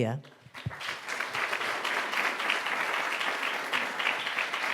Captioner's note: audience applauding